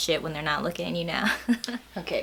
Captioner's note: laughs